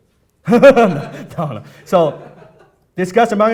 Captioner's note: laughing